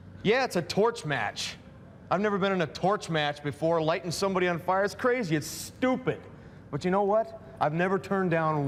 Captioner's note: none